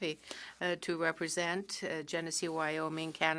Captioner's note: speaking french